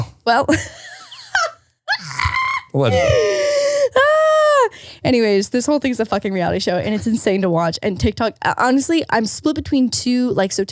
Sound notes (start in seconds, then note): 1.8 laughing